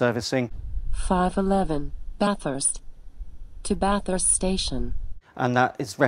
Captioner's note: automated voice